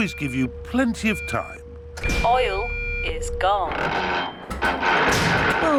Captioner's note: creaking